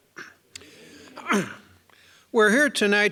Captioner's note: clearing throat